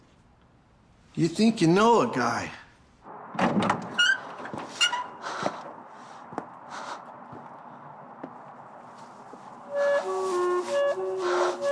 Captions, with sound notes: - You think you know a guy. (door squeaking) (flute music)